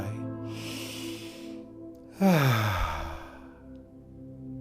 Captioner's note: breathing deeply